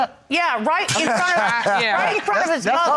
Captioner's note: laughing